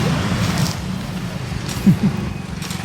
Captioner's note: giggles